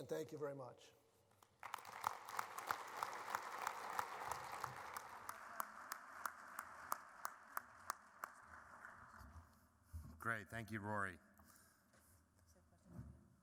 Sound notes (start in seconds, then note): 1.4 applause